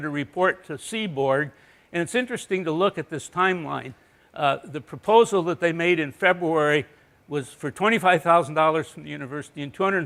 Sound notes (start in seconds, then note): none